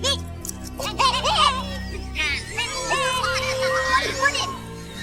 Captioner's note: Minion Chatter and Agreement